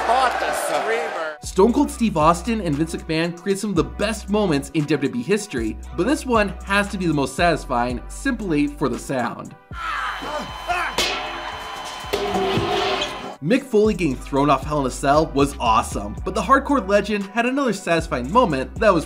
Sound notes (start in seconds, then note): 9.7 Vince screaming; 12.1 bedpan banging